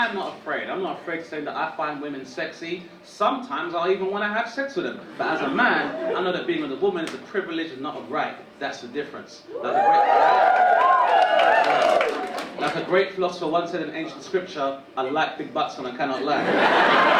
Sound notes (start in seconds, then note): 9.5 audience cheering; 16.2 audience laughing